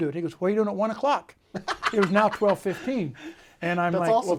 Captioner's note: laughs